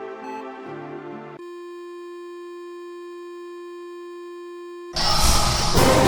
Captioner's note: continuous beeping I Medical device; dramatic Music